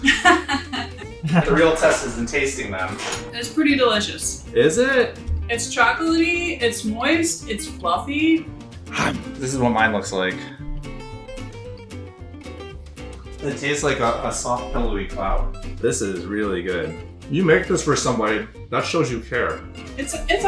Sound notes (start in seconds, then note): 0.0 laughs; 8.8 chomps